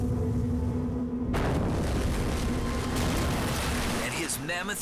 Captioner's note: boat crashing